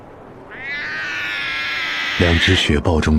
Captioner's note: the calls of the snow leopard cub